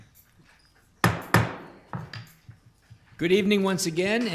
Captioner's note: gavel bangs